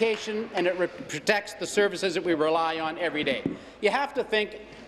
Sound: applause

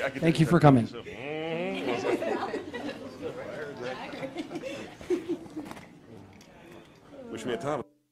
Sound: chatter; audio cuts

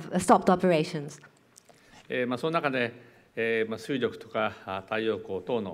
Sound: speaking japanese

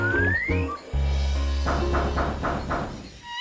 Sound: knocking

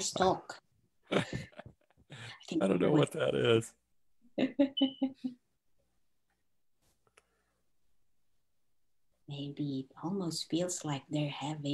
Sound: laughs

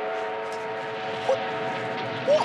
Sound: steam train whistle

